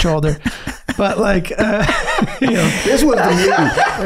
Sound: all laughing

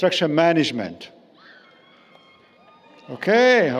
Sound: cheering

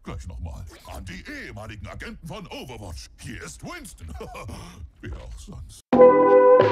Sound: laughs

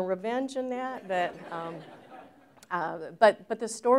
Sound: laughter

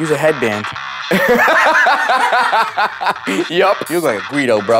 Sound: laughs

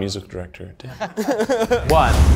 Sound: nervous laughter

